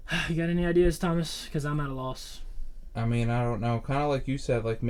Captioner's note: sighs